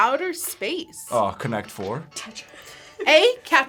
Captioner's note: laughs